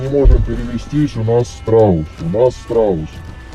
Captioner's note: shelling